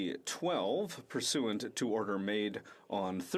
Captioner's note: speaking French